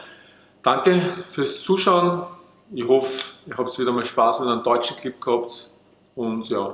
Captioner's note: german